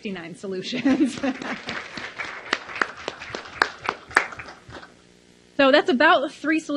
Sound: laughs; applause

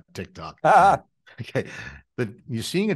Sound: laughing

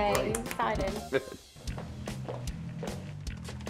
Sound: chuckles

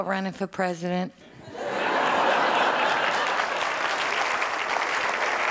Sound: crowd applauding

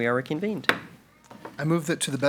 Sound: gavel bangs

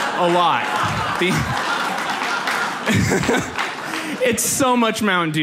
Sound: audience laughs

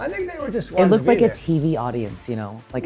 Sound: laughs

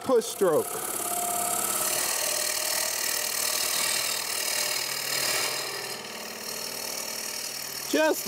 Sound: chisel scrapes

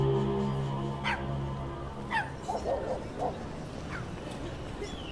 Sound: dogs barking; birdsong

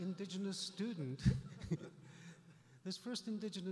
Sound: laughs

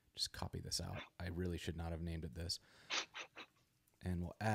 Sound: laughs

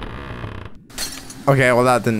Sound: creaking; glass shattering

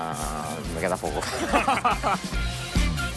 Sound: laugh

